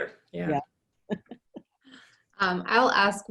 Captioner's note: chuckles